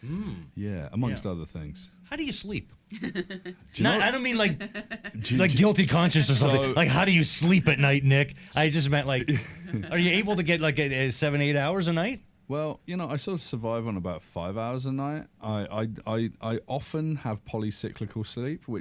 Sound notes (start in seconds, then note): 2.9 laughs